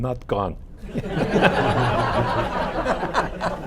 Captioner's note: laughter